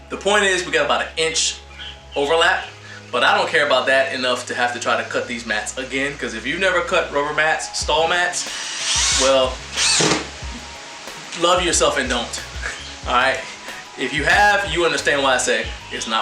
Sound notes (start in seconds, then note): 8.4 drill whirring